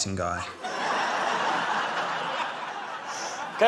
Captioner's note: laughter